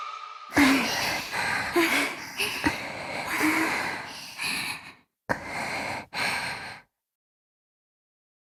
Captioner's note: panting